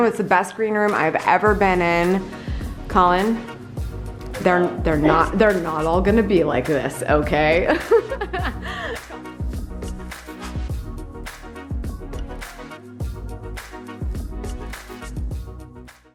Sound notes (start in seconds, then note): 7.7 laughing; 9.7 upbeat music